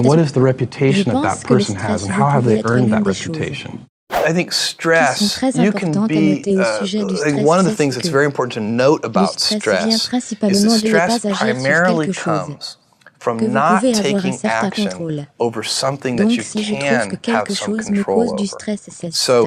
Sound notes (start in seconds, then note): 4.1 whoosh